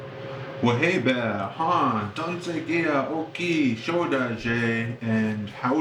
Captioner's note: speaks Native language